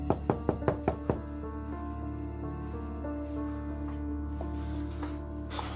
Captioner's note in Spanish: Toques en la puerta